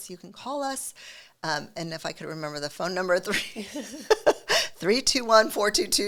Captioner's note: laughing